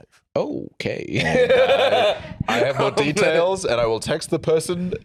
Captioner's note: laughs